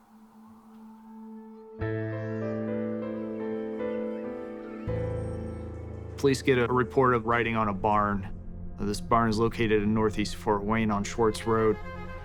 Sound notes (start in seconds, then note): 1.8 children playing; 1.8 somber music